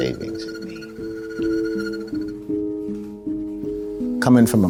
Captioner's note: machine whirring